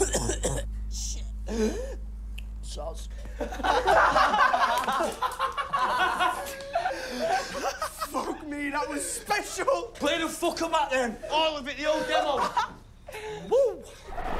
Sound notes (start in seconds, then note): 3.2 laughter